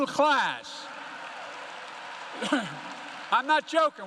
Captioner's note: applause